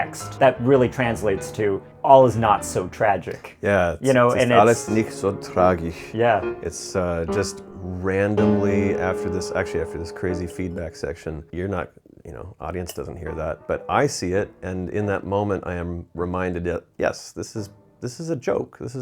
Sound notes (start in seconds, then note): 4.9 speaking in foreign language